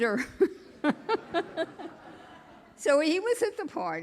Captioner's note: chuckling; audience laughing